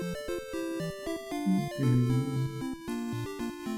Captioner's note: humming along